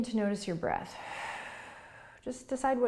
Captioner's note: exhaling